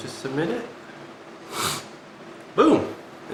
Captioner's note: sniffle